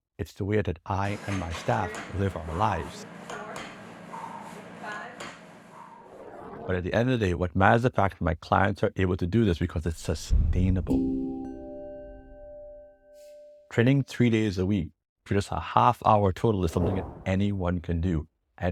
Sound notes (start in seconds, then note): 11.4 bell rings